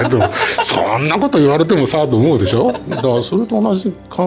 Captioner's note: laughs